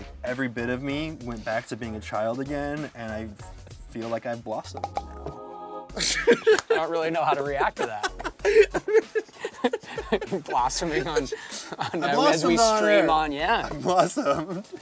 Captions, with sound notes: every bit of me went back to being a child again and I feel like I blossomed. I don't really know how to react to that. [laughing] - Blossoming on... As we stream on, yeah. -I blossomed on air. I blossomed.